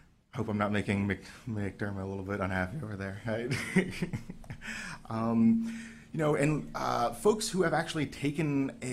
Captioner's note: chuckles